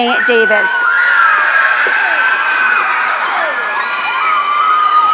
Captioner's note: audience cheering